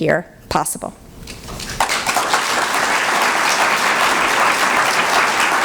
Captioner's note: applause